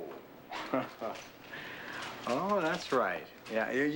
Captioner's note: chuckles